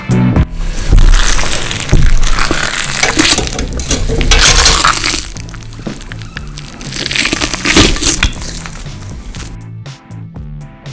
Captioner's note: meat ripping